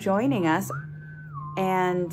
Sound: whistle

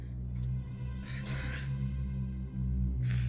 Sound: hissing in pain

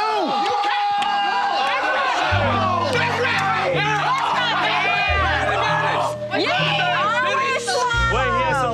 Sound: clamoring

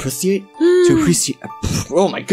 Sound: happy noise

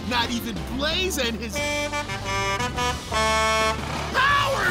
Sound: honking

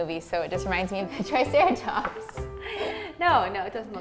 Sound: nervous laugh

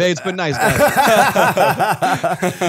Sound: laughter

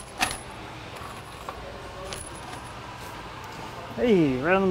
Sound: screws clattering

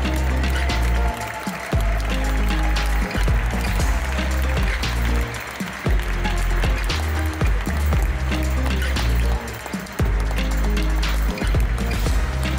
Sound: applause; ♫ Midtempo guitar music ♫

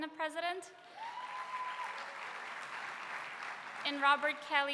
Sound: applause

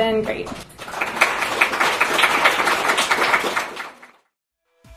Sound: audience claps

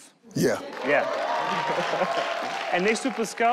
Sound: audience cheer

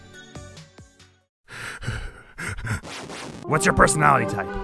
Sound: sobbing

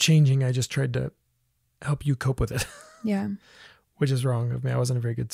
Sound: laughs

